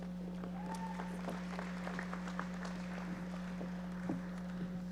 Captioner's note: audience applauding